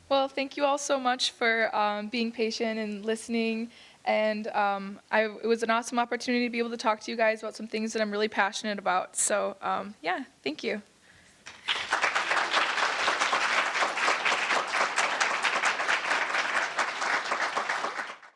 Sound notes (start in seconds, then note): 11.4 audience applauding